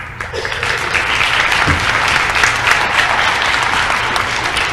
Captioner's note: applause